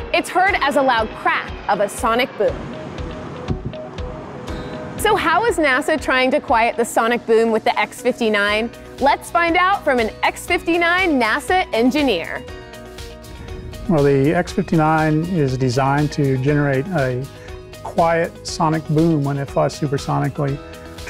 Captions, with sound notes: it's heard as a loud crack of a sonic boom. [sonic boom] So how is NASA trying to quiet the sonic boom with the X-59? Let's find out from an X-59 NASA engineer. - Well, the X-59 is designed to generate a quiet sonic boom when it flies supersonically.